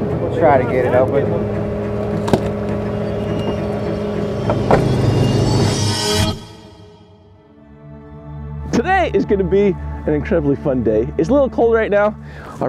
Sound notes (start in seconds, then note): 2.0 metal clunking; 2.4 suspenseful music; 7.3 ambient music